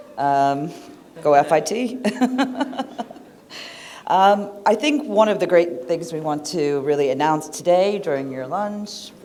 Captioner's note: laughter